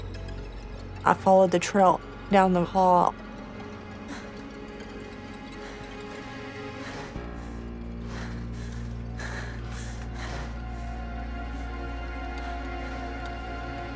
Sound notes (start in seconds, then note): 5.1 rapidly breathing